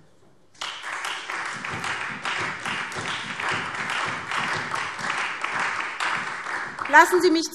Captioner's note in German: Beifall SPD und Freie Demokraten